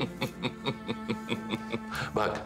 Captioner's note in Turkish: Gülüyor